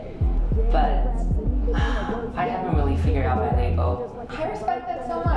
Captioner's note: sighs